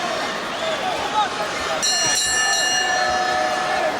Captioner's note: bell ringing